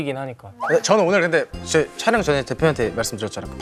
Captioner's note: panicking